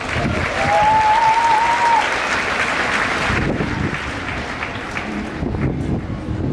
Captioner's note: clapping